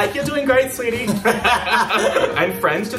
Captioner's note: both laughs